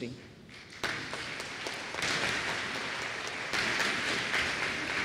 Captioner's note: applause